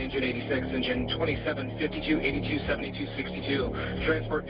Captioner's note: radio